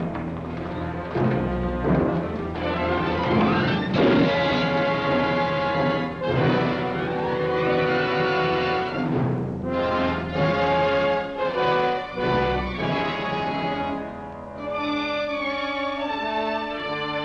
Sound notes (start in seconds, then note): 3.7 gate Slamming